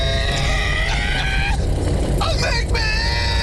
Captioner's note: screaming